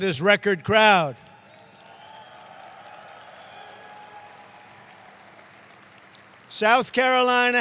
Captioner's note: applause